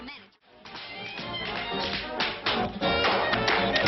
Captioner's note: tapping